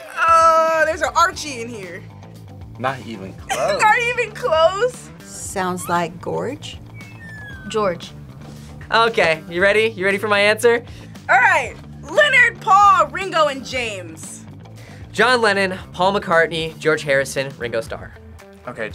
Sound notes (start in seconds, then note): 3.5 laughs